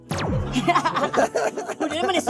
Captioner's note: chuckling